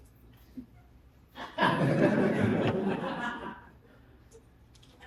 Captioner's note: laughter